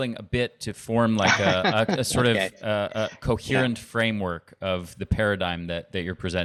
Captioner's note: chuckling